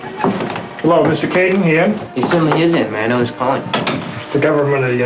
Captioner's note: door shutting